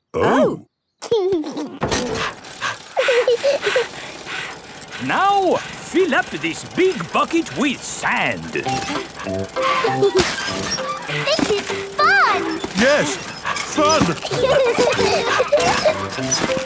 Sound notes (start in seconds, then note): 1.3 chuckles; 1.3 daddy pig panting; 3.2 mummy pig panting; 3.2 peppa chuckles; 9.5 mummy and daddy pig panting; 9.5 peppa and george laughing; 13.0 straining; 14.6 peppa and george laughing